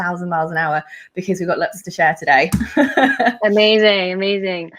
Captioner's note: laughs